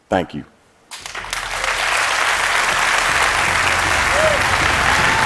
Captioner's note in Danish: Bifald